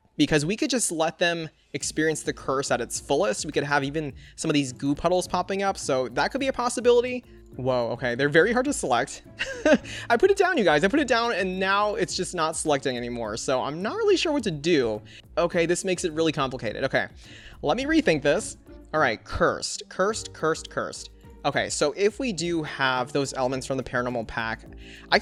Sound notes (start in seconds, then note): 9.3 chuckles